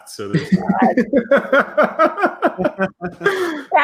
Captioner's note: laughing